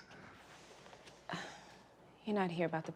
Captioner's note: sigh